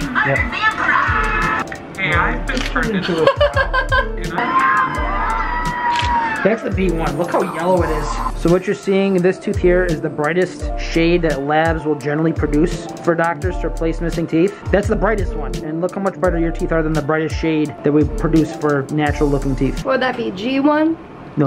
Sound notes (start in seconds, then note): 3.0 laughing